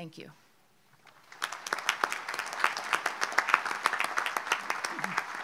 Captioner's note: audience applauds